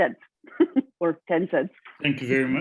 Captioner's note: chuckles